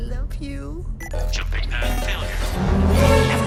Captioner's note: automated Voice